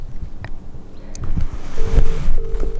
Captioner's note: none